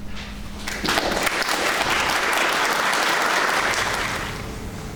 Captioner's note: clapping